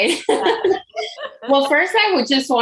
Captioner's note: laughing